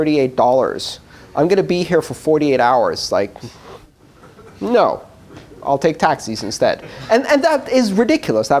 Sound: laughter

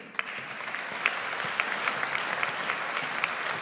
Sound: audience applauds

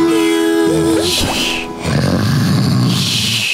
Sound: snoring

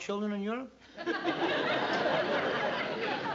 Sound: laughter

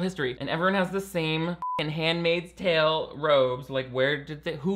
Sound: beep

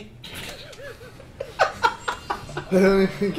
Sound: laughs

